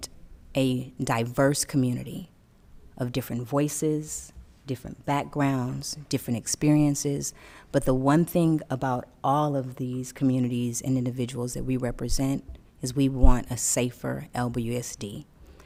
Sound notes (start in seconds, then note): none